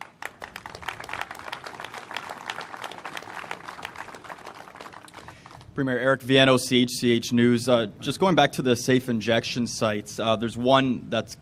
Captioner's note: applause